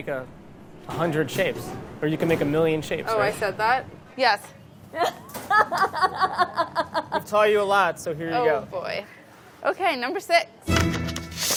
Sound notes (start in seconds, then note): 5.0 laughing